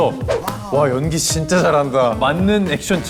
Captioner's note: clap